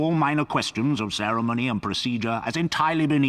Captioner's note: voiceover